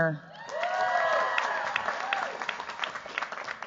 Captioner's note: cheers, applause